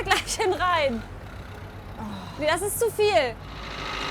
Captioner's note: sighs